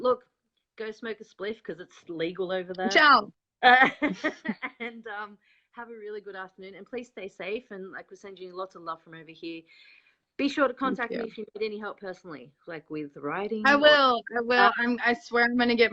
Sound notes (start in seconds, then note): 3.8 laughs